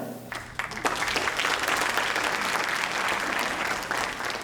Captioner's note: audience applauding